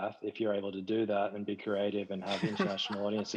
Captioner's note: panelists laughs